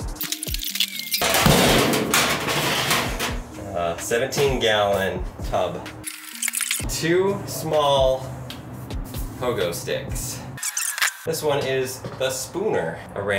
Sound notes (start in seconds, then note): 0.2 video squelches; 6.2 video squelches; 10.6 video squelches